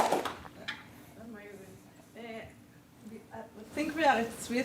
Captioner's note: applause